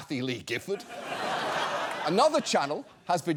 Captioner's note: audience laughs